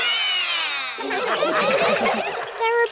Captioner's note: all roar; all laughing